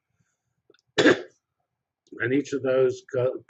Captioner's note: cough